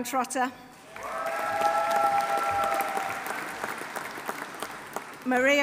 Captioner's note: audience applauding; audience cheering